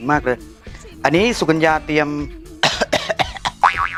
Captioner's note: cough